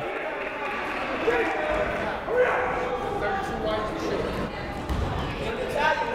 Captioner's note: people shouting in the crowd